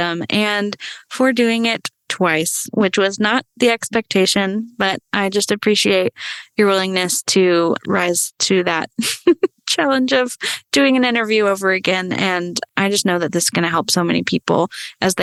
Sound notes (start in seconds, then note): 8.9 laughs